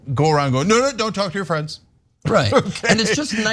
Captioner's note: laugh